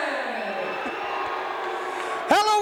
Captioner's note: crowd cheering